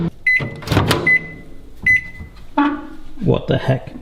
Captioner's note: beeps